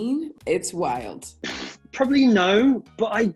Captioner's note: lips smacking